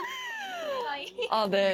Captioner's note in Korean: 웃음